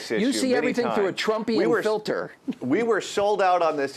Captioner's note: laughs